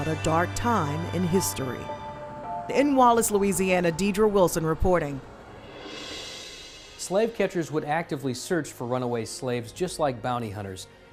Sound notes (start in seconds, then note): 5.2 swoosh